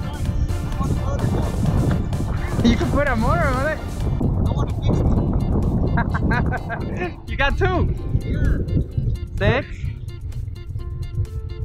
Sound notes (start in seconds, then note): 0.1 yelling from distance; 4.5 yelling from distance; 5.8 laughing